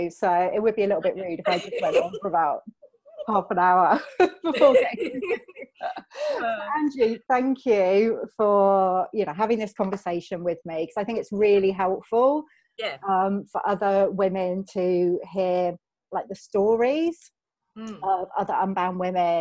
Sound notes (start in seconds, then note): 4.0 laughing